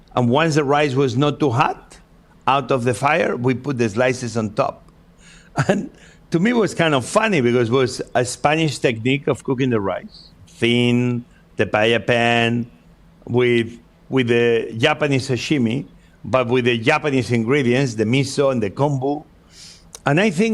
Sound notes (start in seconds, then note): 5.5 laughs